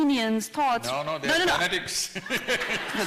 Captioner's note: laughter